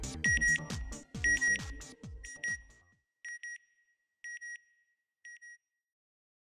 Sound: beeping

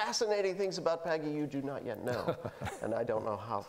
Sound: laughing

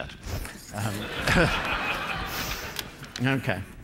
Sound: laughter

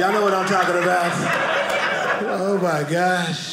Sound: audience laughing

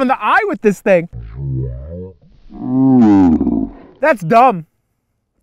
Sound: slow motion droning sound

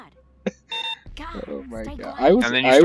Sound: laughs

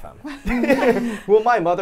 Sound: both laugh

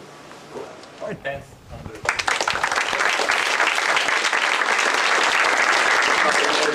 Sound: applause

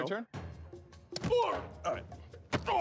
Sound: groans

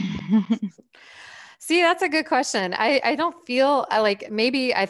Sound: chuckles

